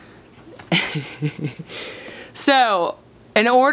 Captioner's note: laughs